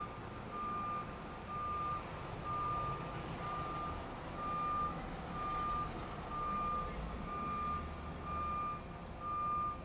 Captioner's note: beeping from a truck backing up